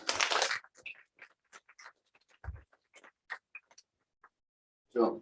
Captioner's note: applause